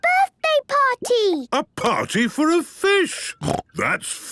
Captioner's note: snorting